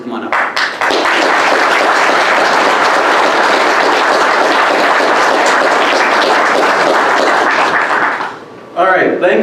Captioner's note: clapping